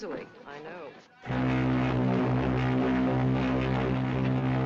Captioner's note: horn Blowing